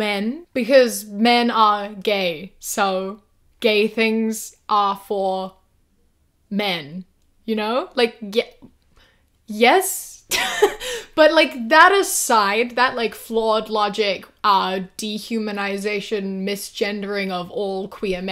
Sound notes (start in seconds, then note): 10.4 laughs